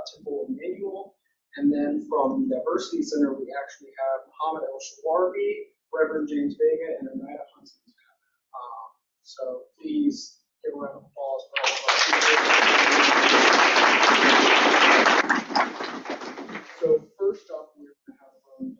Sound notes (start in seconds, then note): 15.2 audience Clapping